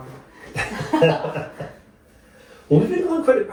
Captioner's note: laughing